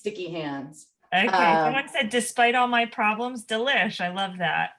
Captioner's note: laughs